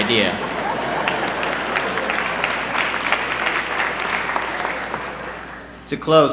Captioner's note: laughter